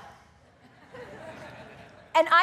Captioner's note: audience laughing